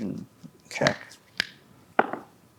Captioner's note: knuckles popping; dice rolling